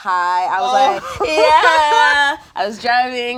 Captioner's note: laughs